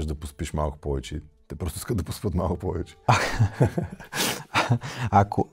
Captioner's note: laughter